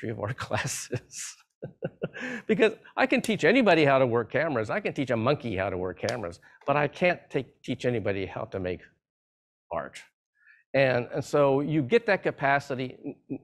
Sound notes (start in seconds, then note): 1.6 laughs